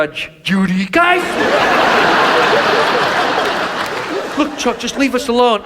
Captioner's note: audience laughs